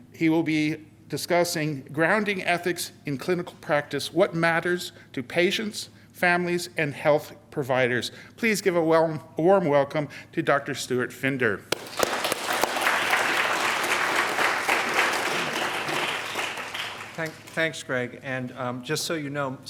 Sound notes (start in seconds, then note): 11.7 applause